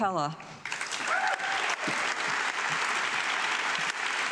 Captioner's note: audience clapping